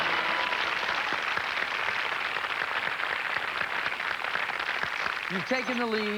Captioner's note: fanfare; cheers and applause